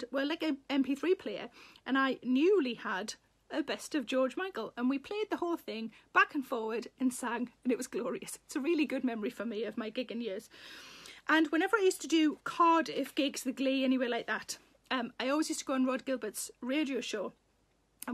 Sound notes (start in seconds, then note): none